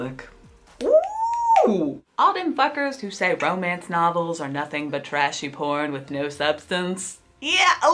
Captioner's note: finger snaps